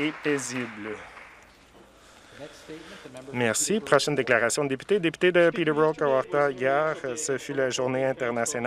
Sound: some Applause

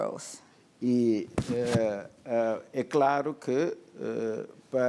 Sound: speaking portuguese

